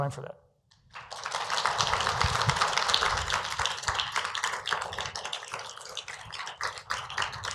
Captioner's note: applause